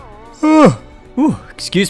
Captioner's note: yawns